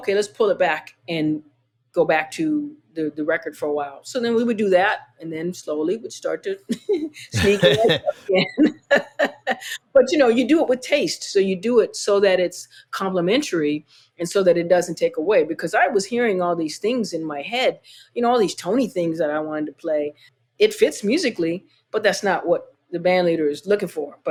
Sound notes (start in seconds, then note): 7.3 laughter